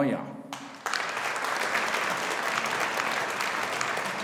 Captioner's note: audience applauding